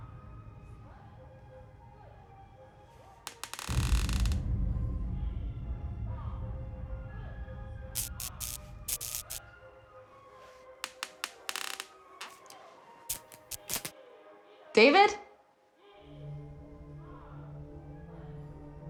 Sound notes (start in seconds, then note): 3.2 floorboards creaking; 7.9 light flickering; 10.8 floorboards creaking; 11.4 light flickering; 15.8 suspenseful music